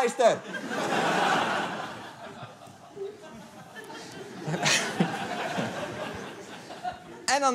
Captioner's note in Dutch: Gelach